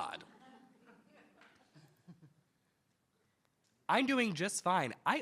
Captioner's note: attendees laughing